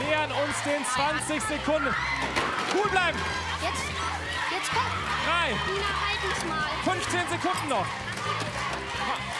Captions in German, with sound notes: Sehr gut, macht ihr das! (Anfeuernde Rufe) Wir nähern uns den 20 Sekunden. Cool bleiben. Drei, 15 Sekunden noch.